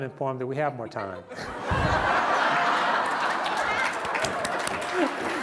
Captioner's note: laughter